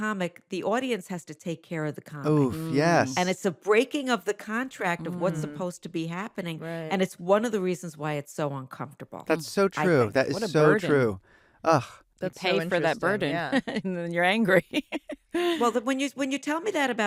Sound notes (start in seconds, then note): 14.5 laughs